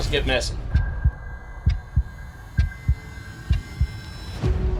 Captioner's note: heart beating